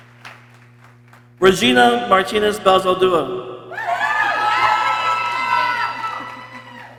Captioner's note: people cheering